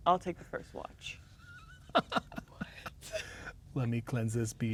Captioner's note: laughing